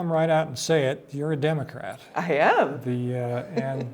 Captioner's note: laughs